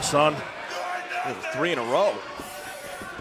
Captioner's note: crowd chatter